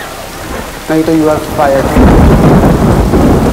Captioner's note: Clouds thundering